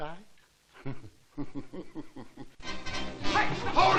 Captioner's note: laughing